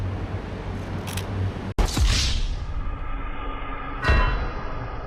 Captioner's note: 1/30 second shutter sound